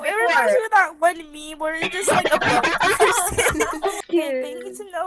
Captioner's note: more giggles